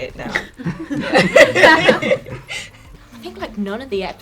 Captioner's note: all laughing